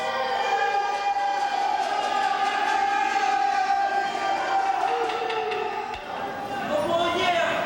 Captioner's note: cheering